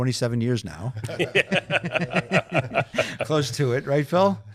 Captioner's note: panelists laughing